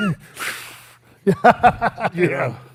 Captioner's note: laughs